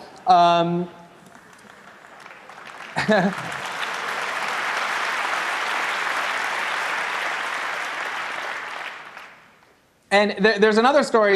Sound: applause, Greenwald laughs

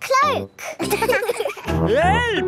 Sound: laughing

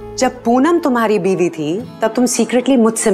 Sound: none

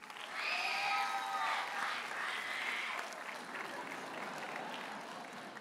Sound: audience cheers and applauds; audience chuckles

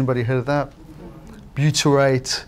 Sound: audience mumbles

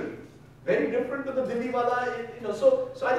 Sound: speaking in foreign language

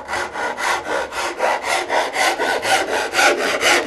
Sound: saw noises

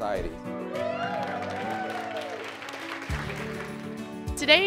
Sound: crowd cheers

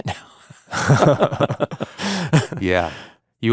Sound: both laughing

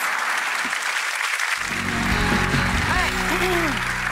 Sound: audience clapping

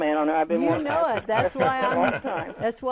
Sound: laughing

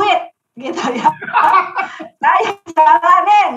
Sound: laughing

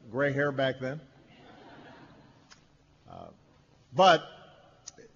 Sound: laughter

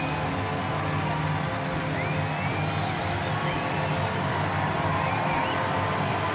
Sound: audience cheering and applauding loudly

